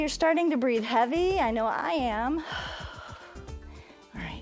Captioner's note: exhales